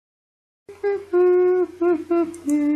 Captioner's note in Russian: напевает